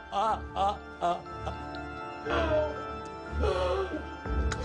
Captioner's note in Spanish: Sollozos